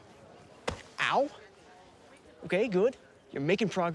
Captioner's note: fist thuds